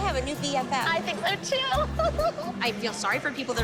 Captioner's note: laughs